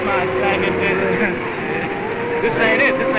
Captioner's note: laughing